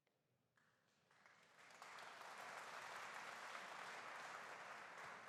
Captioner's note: audience applauding